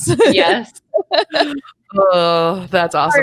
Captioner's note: chuckles